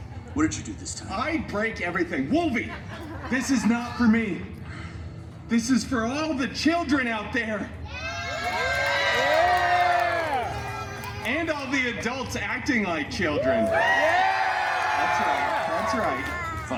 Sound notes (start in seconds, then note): 8.1 guests cheering and applauding; 13.2 guests cheering and applauding